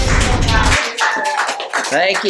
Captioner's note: applause